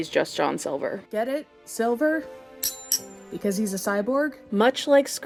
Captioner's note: clang